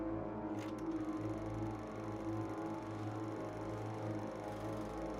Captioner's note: projector clattering